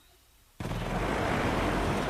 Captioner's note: engine roars